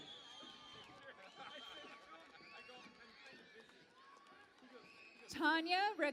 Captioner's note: cheering and Applause